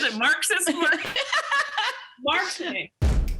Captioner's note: laughs; upbeat music